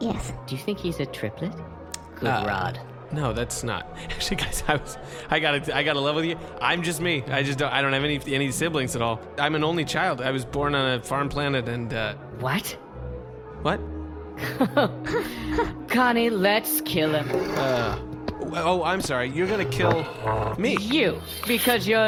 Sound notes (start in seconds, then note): 14.4 Mark and Connee laugh incredulously